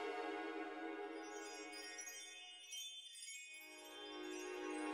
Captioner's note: chimes jingling